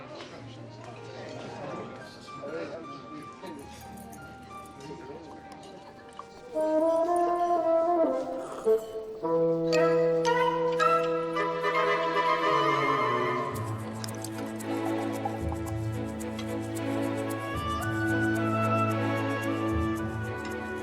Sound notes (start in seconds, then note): 8.2 waiter slurping; 10.0 cheerful music; 13.6 wine trickling; 16.9 cheerful music continues